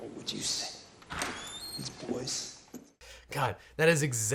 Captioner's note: door creaks open